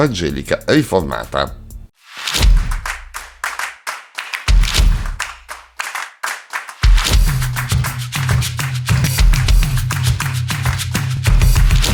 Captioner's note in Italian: Applauso